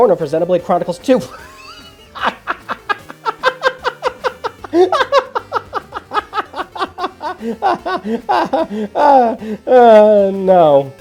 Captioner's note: laughs